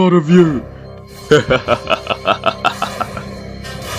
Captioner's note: Zazel laughs